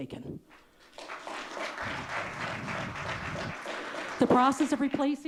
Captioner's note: audience clapping